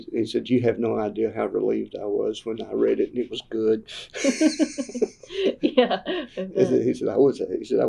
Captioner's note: laughter